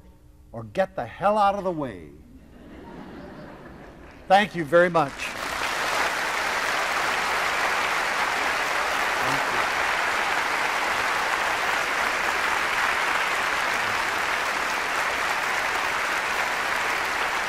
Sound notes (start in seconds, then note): 6.6 applause